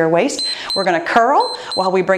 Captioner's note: timer beeps